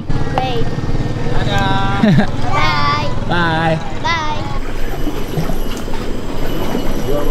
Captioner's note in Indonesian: laugh